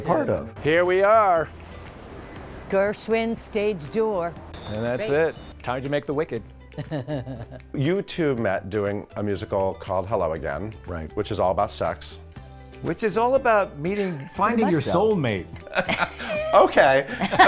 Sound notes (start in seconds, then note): 4.5 door buzzing; 6.7 laughs; 15.7 all laugh